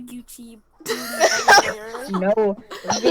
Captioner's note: laughter from others